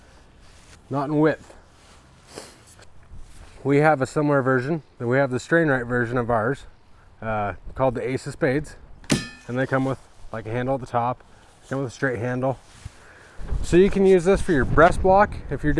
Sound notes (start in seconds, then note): 9.0 metal clang